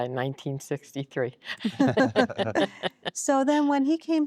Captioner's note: laughter